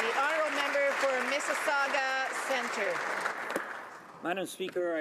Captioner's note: applause